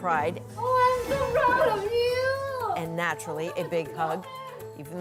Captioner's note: laughter